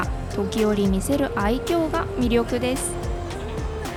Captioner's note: laughs